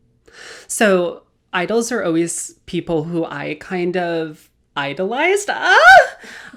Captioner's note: screams